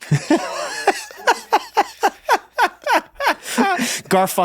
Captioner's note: Glenn laughs